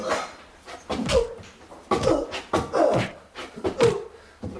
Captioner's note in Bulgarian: Пъшкането